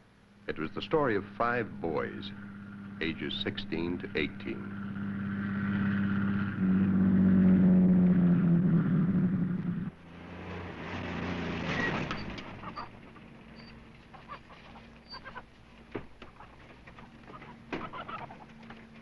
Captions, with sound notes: It was the story of five boys, ages 16 to 18. (truck rumbling) (chickens clucking)